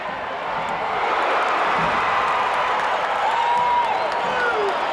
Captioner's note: audience cheering